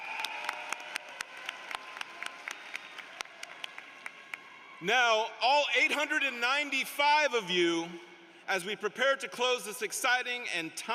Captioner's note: applause